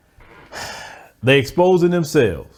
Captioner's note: sighs